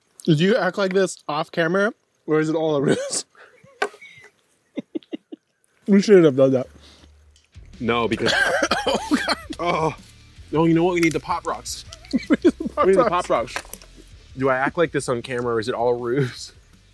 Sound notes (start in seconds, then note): 4.6 both laughing; 9.5 grunts